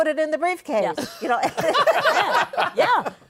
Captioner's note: laughter